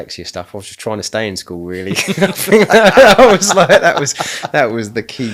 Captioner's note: laughing